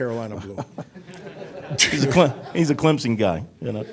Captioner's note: everyone laughing